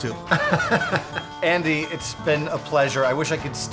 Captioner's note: laughing